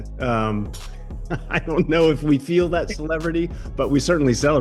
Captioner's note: laughs